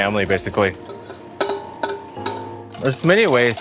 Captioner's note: whisk scraping